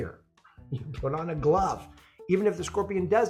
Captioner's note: laughs